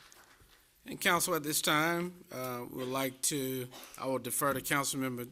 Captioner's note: applause